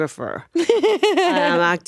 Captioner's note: laughing